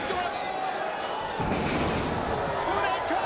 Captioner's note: bodies slamming